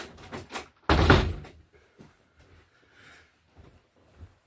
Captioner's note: door slamming